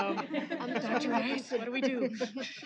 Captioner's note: laughter